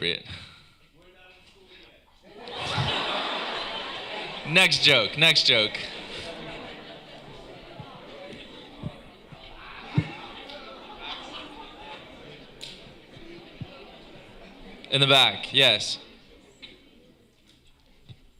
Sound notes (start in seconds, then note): 2.1 laughter; 5.6 talking in background